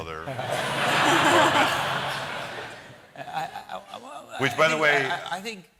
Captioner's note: laughter